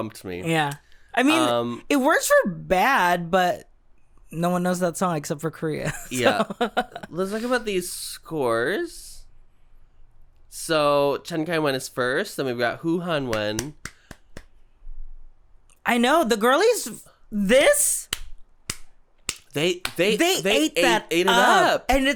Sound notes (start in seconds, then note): 5.9 giggles; 13.3 claps; 19.2 clap, clap, clap